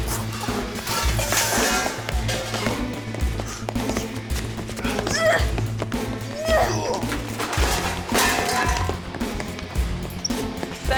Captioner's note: suspenseful music; sounds of fight